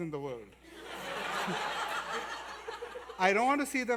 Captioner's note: laughter